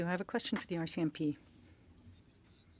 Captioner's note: speaking French